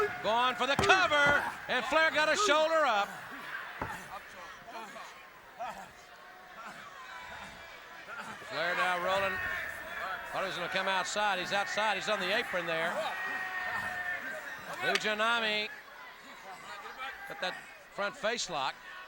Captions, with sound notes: Going for the cover. And Flair got a shoulder up. (Ric Flair grunting) (audience chattering) Flair now rolling. I thought he was gonna come outside. He is outside. He is on the apron there. Fujinami put that front face lock.